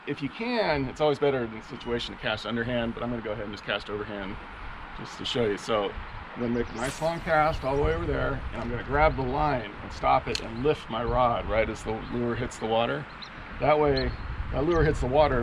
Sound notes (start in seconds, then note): 6.8 rod whipping; 8.6 reel spinning